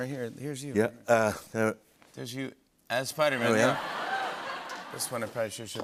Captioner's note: laughter